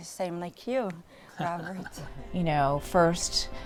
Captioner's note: chuckles